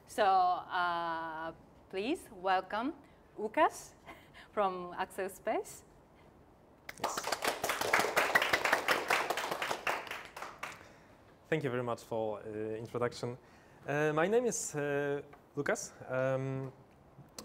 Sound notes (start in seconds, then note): 6.9 applause